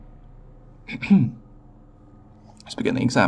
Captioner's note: clears throat again